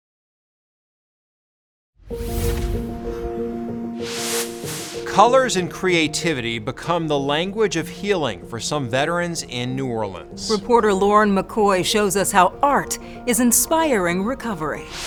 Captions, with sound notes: (gentle music) (air whooshing) - Colors and creativity become the language of healing for some veterans in New Orleans. - Reporter Lauren McCoy shows us how art is inspiring recovery.